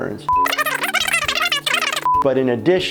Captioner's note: tape rewinding